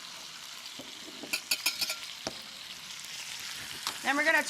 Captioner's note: whisk clanks